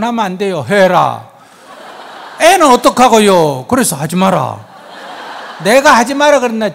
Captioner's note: audience laughs